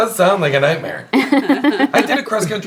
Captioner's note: laughing